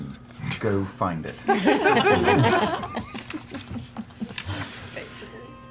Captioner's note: laughter